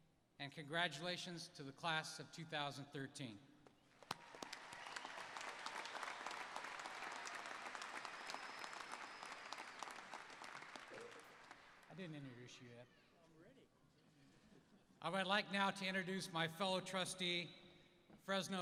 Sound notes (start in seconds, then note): 3.9 applause